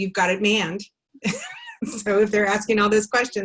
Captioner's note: laughs